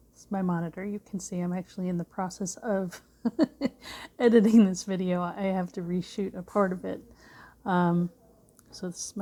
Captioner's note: laughs